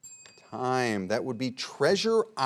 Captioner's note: bell ringing